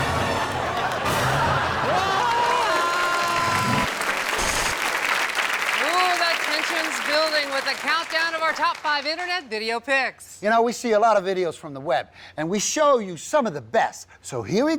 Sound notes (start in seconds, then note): 2.1 yells; 4.0 audience applauds